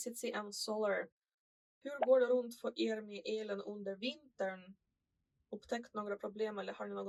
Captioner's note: in Swedish